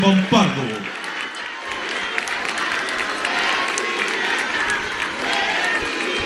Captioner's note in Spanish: aplausos